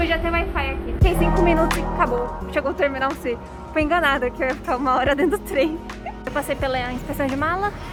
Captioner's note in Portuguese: risos